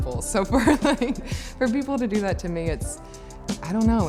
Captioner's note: laughs